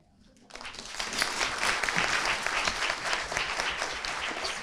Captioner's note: audience applauding